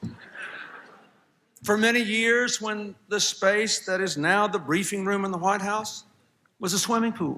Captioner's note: laughter